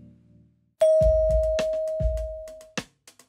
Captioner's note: bell dings; upbeat music